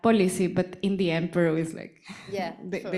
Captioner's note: chuckling